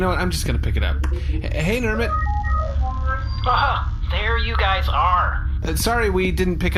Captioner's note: communicator chimes